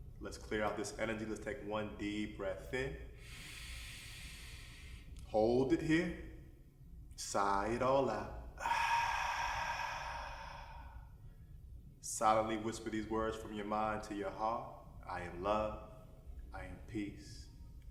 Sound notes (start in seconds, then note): 3.1 inward breath; 8.4 outward breath